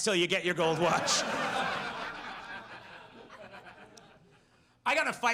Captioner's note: audience laughs